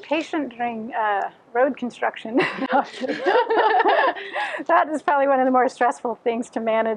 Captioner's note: laughter